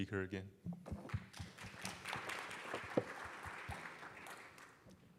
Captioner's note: applause